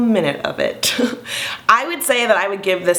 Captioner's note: chuckling